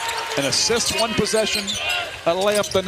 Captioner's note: cheers and applause